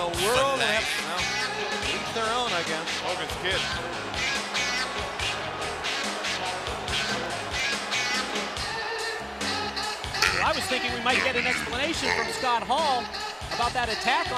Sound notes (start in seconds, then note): 10.1 crowd chatter